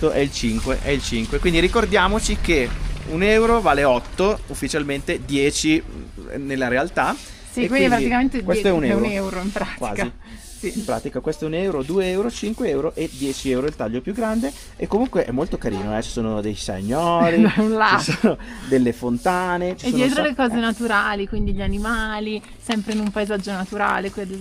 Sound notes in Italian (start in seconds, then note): 17.2 risate